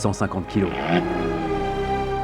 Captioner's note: brummmmmmmmmmm